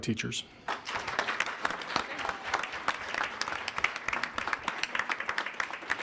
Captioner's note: attendees applauding